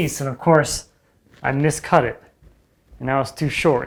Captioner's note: none